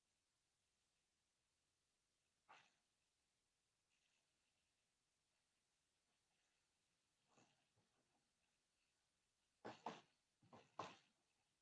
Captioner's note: silence